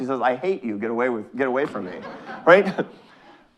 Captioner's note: audience laughing